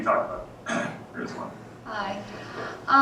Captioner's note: cough